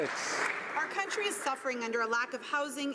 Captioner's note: some Applause